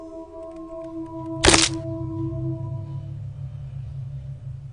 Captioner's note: neck snapping